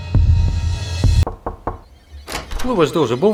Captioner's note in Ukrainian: стук у двері